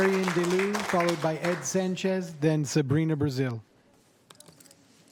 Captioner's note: applause